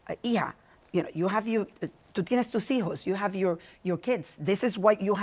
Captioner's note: speaks Spanish